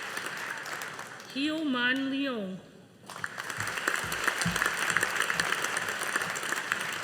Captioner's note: audience applauding